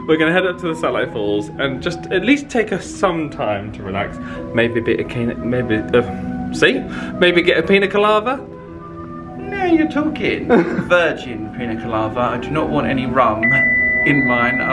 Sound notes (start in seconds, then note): 5.8 stammering